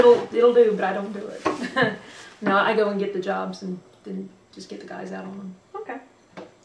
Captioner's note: laughs